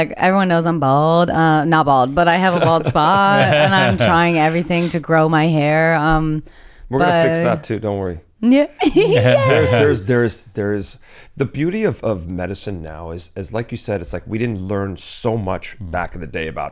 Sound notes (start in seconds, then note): 2.4 laughs; 8.8 laughs